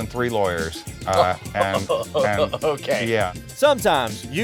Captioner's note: laughing